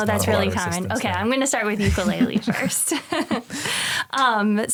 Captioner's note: chuckles